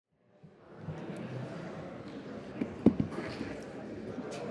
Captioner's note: crowd chatter